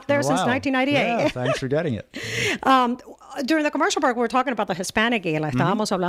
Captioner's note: Hablando ingl\s